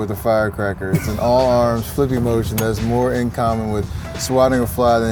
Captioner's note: laughs